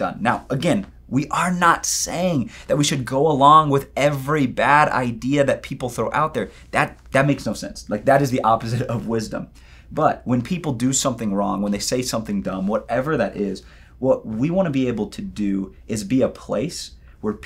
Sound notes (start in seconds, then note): none